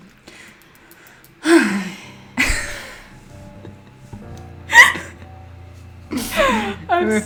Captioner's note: they sigh at the same time frustrated by Felix's perfection